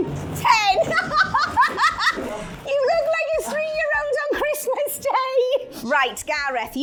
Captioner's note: laughing